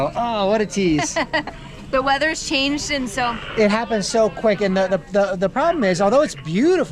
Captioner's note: laughs